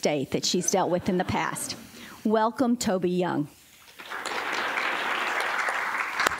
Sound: applause

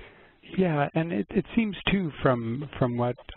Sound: voiceover

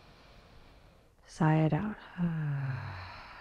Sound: sighs

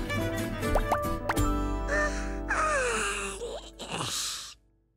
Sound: yawning

